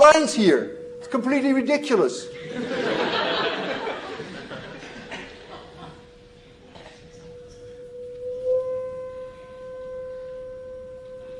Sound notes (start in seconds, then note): 2.4 laughter